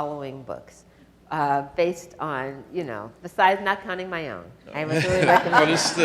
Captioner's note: audience laughs